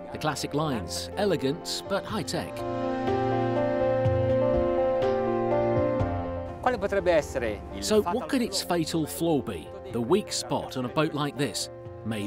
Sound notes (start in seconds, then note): 6.8 host speaks in foreign language; 7.8 voiceover